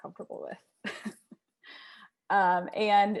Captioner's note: laughs